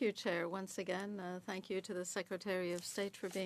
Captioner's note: speaking French